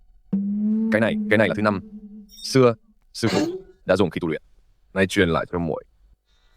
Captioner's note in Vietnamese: hắng giọng